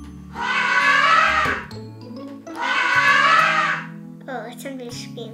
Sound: recording of elephant trumpeting

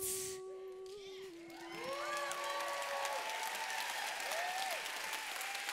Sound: applause

